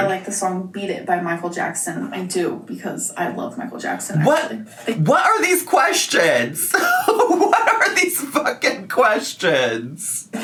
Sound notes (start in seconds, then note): 6.6 laughs